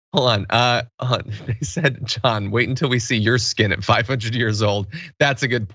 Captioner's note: laugh